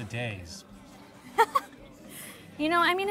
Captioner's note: Keely giggles